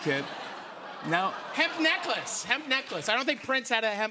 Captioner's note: laughter